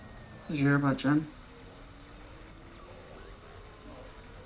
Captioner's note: static hisses